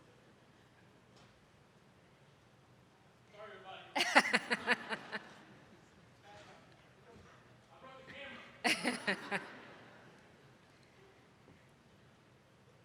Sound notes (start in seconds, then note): 4.9 attendees laughing; 8.6 lady laughing